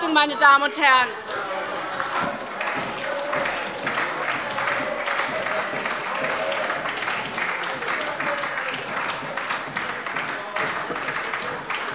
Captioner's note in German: Beifall bei der SPD - Widerspruch von der CDU